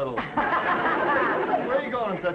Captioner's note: audience laughing